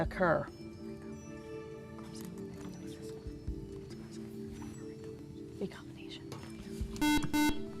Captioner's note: whispering; buzzer